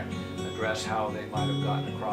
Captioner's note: male Voice